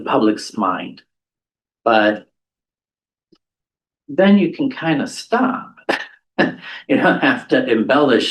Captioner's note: laughter